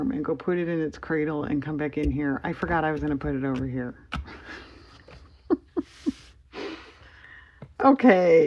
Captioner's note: laughs